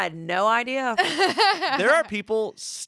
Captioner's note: laughs